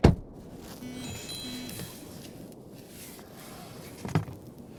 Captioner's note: cell phone chimes